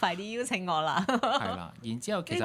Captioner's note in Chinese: 眾人笑